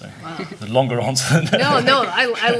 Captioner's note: laughing